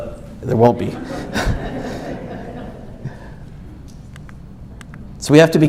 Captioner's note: audience laughs